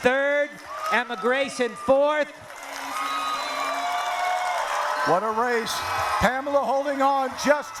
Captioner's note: cheering